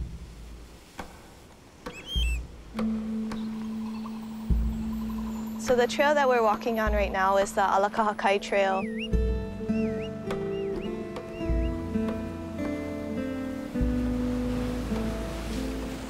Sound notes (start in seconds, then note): 2.1 waves crashing, birds calling; 14.6 waves crashing